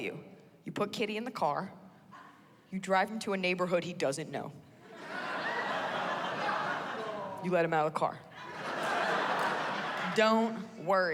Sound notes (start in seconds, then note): 4.8 laughter